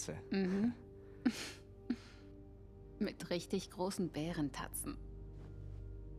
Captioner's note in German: gluckst